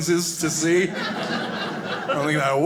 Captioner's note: audience laughing